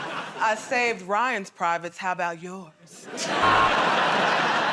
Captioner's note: sultry voice; laughter and applause; buzzer